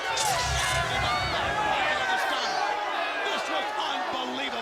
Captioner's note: Tony speaks faintly